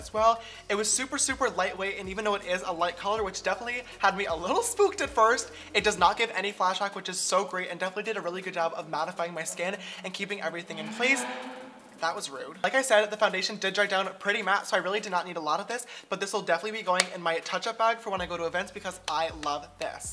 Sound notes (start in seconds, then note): 11.6 engine sound